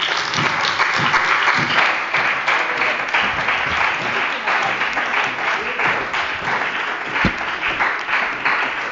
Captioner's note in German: Beifall bei der CDU und dem BÜNDNIS 90/DIE GRÜNEN